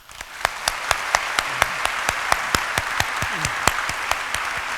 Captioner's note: applause